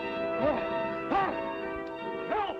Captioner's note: man screams